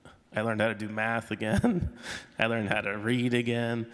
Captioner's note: chuckles